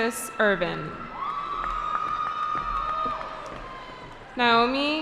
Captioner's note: cheering